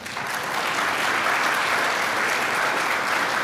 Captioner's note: applause